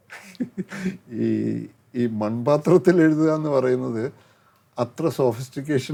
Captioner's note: laughs